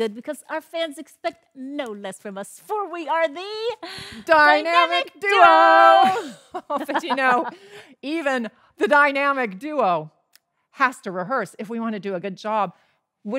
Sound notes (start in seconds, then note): 5.1 laughs